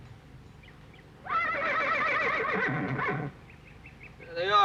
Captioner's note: horse neighing